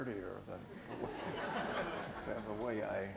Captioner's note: laughter